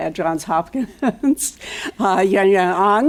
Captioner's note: laugh